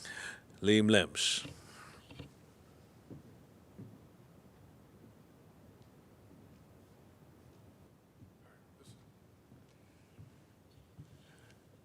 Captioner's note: non-english